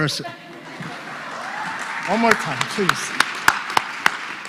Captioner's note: applause